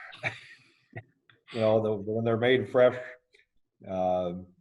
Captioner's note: laughing